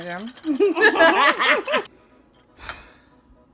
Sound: cackles

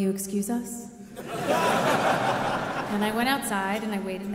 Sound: audience laughing

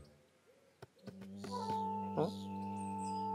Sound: bee buzzing

